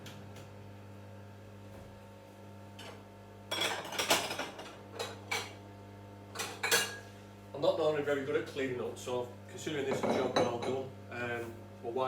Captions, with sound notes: (plates clanging) I'm not normally very good at cleaning up, so I consider this a job well done.